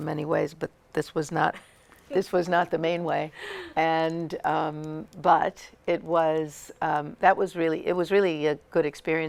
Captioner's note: laughter